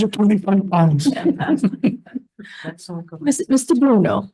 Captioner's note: laughter